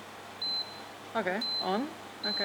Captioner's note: buttons beeping